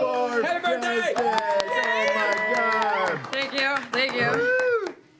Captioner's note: cheering